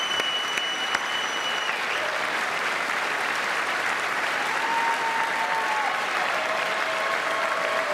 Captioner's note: applause